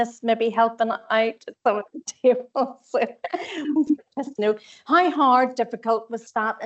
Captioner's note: audio distorts 10.18; audio distorts 10.24